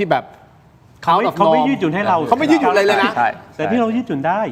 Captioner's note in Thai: เสียงหัวเราะ